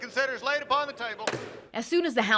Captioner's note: gavel bang